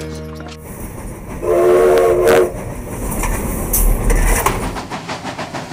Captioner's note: train whistle blows